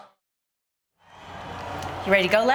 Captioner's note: crowd chatter